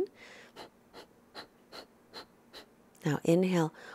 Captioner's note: breathing noise